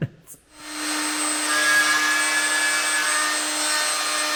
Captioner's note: laughs; tool whirring